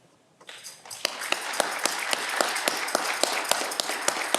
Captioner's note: audience clapping